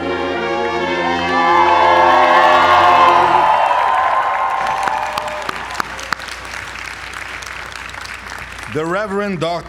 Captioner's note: applause